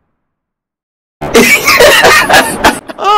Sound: laughing at you

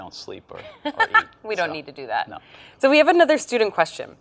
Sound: laughs

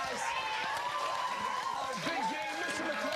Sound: cheers and applause

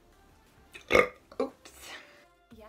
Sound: LOUD burp

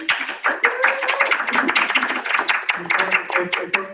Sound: audience applauding

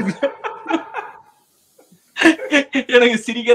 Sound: laughs

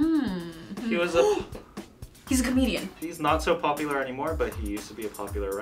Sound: gasps

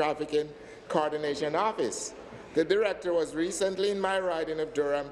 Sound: none

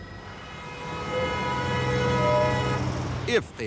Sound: cars honking

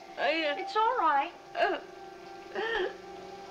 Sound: sobbing

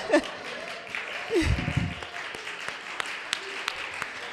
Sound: audience applauding

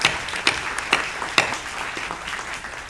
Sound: applause

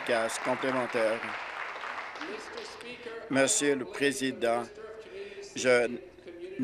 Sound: applause

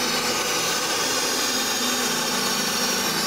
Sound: gas roaring

